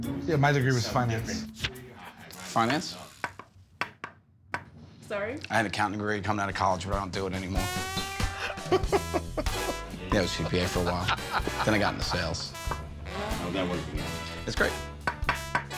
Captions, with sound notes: Yeah, my degree was finance. Finance? [ Wood knocking ] Sorry? I had an accounting degree coming out of college, but I don't do it anymore. [ Laughs ] I was a CPA for a while. Then I got into sales. How's that working out? It's great.